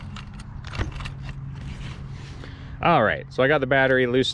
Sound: engine coughing; throttle clicking

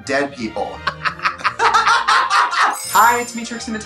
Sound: Katya and Trixie laughing

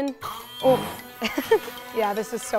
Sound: blender whirring

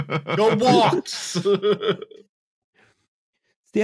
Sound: laughter

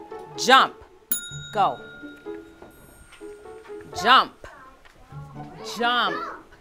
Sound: bell dings

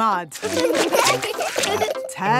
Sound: laughing

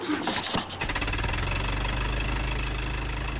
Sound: car noise; car starts

